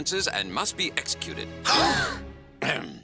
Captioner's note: all gasping; clears throat